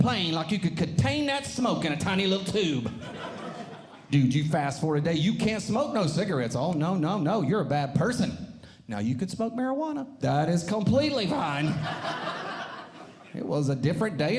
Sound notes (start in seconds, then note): 11.6 audience Laughing